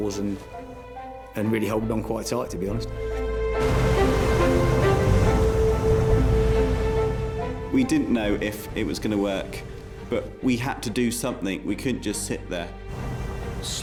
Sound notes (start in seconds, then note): 3.3 waves crashing; 4.6 dramatic music